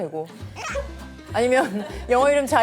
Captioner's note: wincing